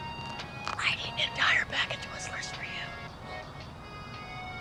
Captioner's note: whispering loudly